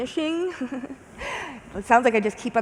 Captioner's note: chuckles